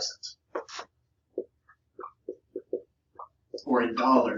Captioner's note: marker knocking